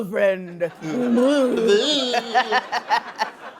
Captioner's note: gibbering; laughing